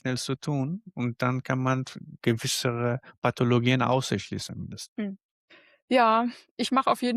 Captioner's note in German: räuspern